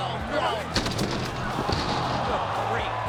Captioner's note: body thuds; beeps